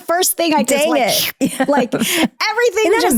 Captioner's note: slurping